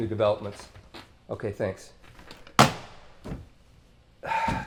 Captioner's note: phone receiver thuds; sighs